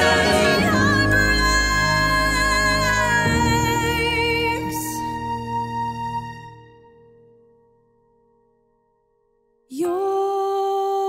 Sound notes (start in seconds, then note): 5.9 silence